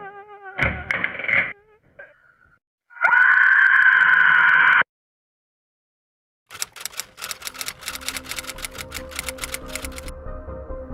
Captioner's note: woman crying followed by thud and SCREAM